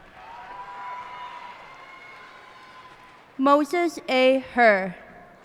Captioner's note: cheers and applause